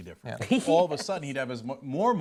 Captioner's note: laughter